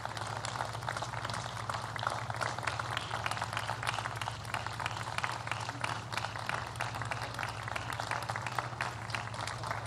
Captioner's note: applause